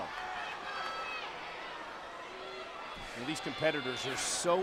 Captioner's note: applause